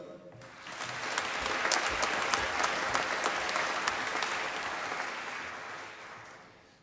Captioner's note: applause